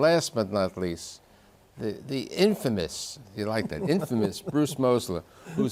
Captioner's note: laughing